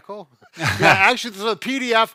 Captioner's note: both laugh